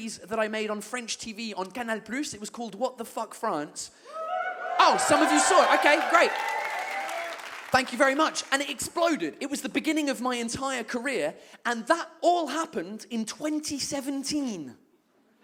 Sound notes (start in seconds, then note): 4.0 audience cheers